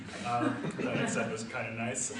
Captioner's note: audience laughs